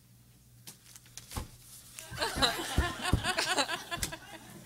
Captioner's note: audience laughing